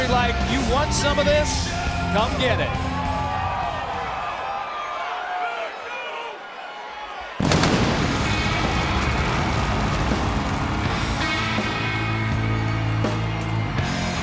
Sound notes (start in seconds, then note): 3.5 crowd cheering; 7.4 fire blasting; 10.9 ominous metal music